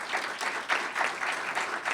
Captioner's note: applause